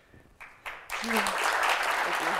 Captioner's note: applause